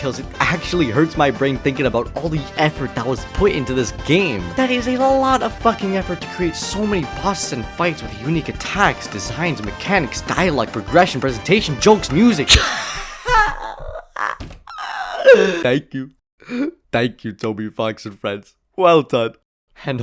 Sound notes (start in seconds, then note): 14.7 inhales; 14.8 runs out of breath; 15.6 in emotional voice